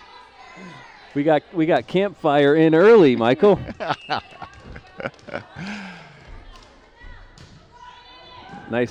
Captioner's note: laughter